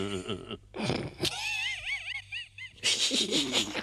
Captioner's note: chuckles; Henchman snickers